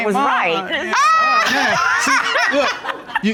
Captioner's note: judge laughs